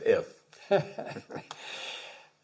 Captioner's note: laugh